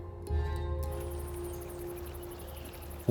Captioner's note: insects chittering, birds twittering